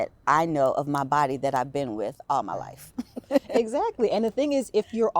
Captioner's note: laughing